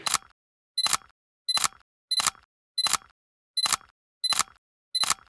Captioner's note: camera beeping, clicking